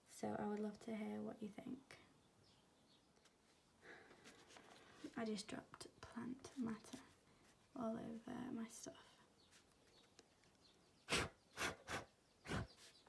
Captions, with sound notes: so i would love to hear what you think. i just dropped plant matter all over my stuff *blowing noises*